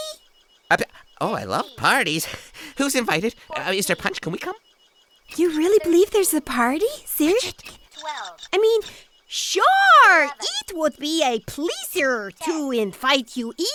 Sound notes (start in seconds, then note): 7.2 whispering